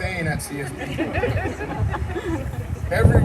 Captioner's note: laughter